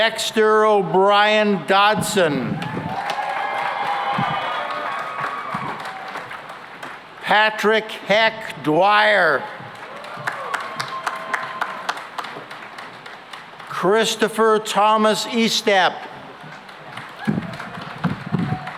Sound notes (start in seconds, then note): 2.5 cheering and applause; 9.6 cheering and applause; 16.3 applause